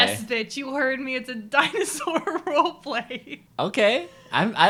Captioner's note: laughing